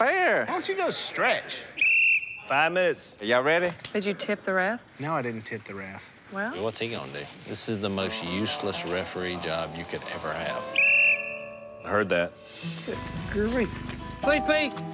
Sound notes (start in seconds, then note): 0.2 whistle blows; 10.6 whistle blows